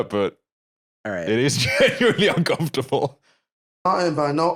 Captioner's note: laughing